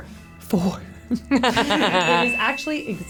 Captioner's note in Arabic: تضحك